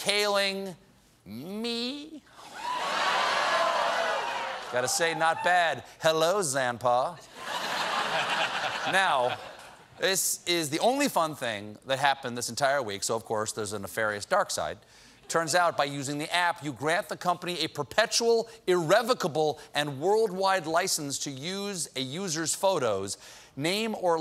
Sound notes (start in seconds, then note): 2.5 cheers and applause; 10.4 laughter